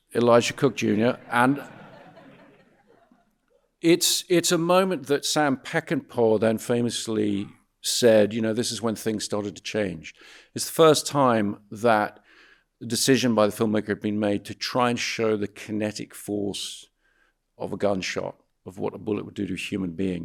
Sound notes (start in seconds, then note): 0.4 audience laughing